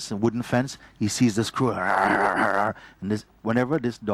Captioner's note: indicates dog growling